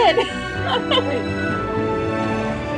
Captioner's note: laughs